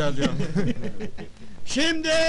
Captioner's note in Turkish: gülüşmeler